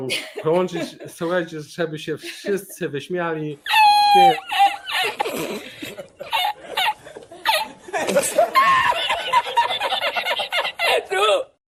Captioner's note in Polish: śmiech